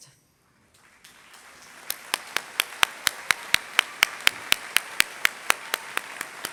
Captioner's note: applause